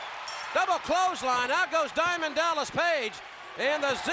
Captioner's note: crowd cheering; bell ringing